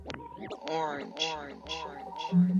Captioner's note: echoes